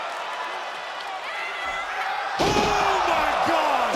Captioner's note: crowd cheering